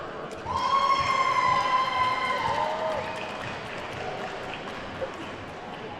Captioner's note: attendees whooping and clapping